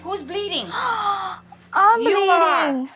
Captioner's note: gasps